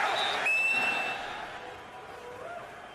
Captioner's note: whistle blowing; chanting